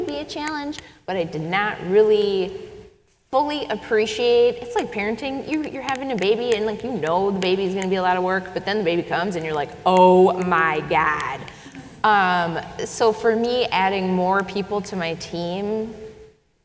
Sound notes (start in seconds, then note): 11.6 audience chuckles